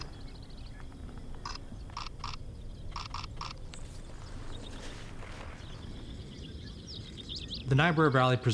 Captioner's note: birds chirping